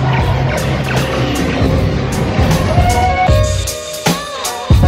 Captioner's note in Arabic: أصوات علامات الليزر